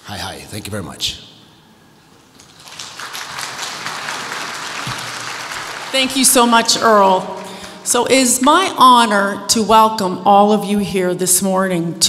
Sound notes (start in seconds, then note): 2.3 audience applauds